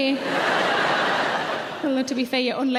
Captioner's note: audience laughing